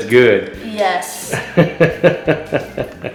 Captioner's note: laughs